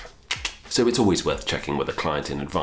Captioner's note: clicking tongue